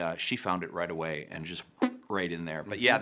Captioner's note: puffs air